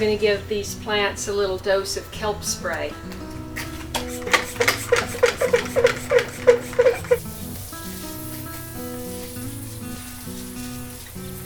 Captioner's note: pumping sound